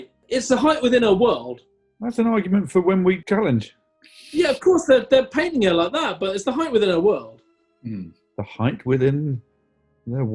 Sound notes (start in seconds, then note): 4.2 sniggering